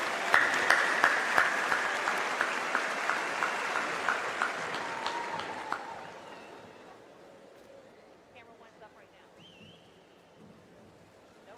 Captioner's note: applause